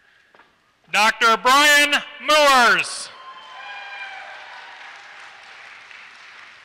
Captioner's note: applause